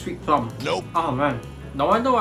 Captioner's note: nope sound effect